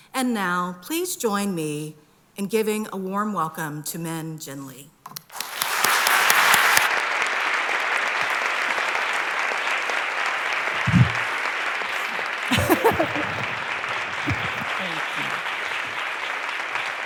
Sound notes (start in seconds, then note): 4.9 applause; 11.7 laughs